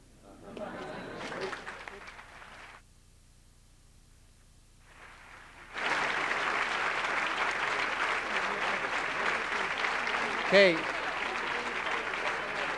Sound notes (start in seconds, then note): 0.2 laughter; 4.8 applause